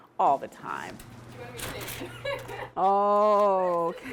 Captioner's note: laughs